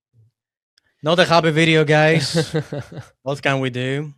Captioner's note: laughs